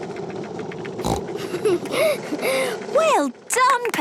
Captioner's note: giggles, snorts